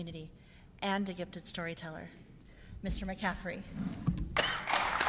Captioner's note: applause